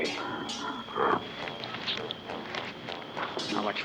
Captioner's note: growling